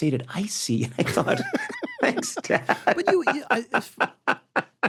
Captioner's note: laughs